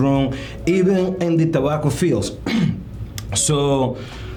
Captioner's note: clears throat